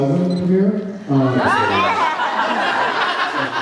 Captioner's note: laughs